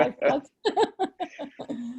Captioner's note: laughter